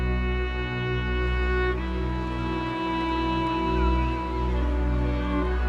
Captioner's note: seagulls squawking